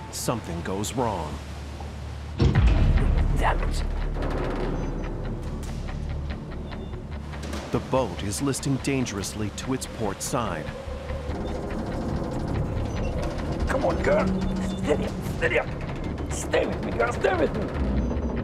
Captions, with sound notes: something goes wrong. - Dammit. (metals clanking) - The boat is listing dangerously to it's port side. (metals clanking) - Come on girl, steady up, steady up. Stay with me girl, stay with me.